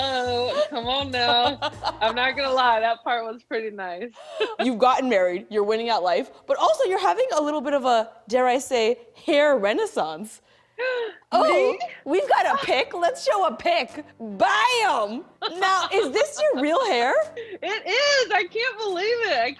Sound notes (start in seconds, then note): 10.4 gasps; 15.4 laughing